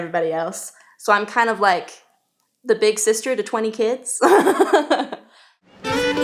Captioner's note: laughing